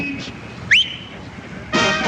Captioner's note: whistles